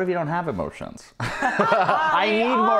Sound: laughing together

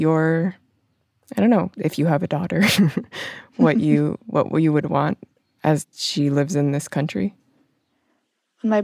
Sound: laughs

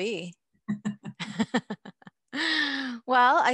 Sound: both laughing

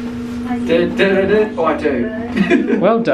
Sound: humming

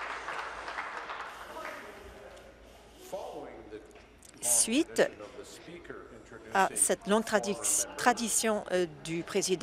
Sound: applause

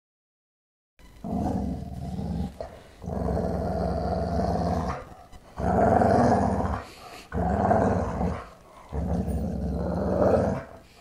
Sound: pitbull growl

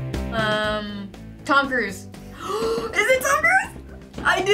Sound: gasps

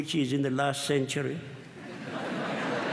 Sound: laughter

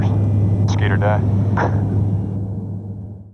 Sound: laughs

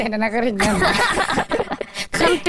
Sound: laughing

